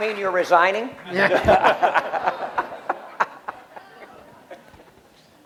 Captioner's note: laughter